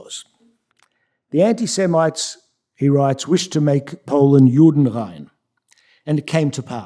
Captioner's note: yiddish